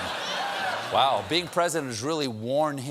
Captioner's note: laughter